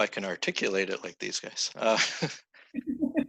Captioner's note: everyone laughs